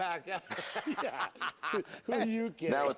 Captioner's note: laughs